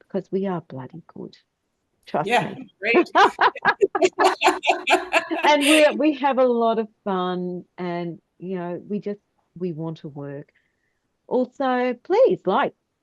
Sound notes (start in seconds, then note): 2.9 all are laughing